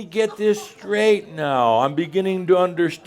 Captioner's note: audience also says “Ohh!”